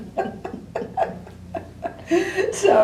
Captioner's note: laughter